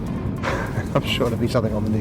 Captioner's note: laughs